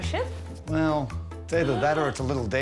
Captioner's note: gasping